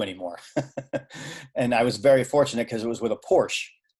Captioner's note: laughing